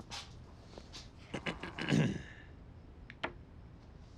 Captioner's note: clears throat